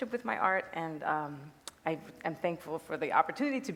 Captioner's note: none